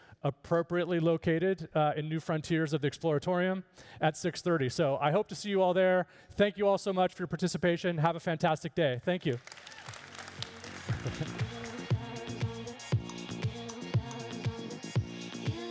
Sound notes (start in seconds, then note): 9.2 applauding and cheering; 9.7 upbeat music